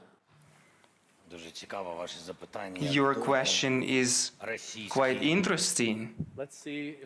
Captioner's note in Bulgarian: На украински